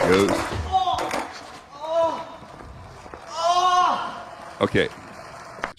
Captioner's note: shouting in pain